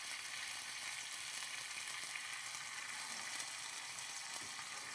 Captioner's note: ingredients sizzling